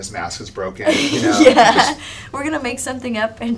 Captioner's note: laughs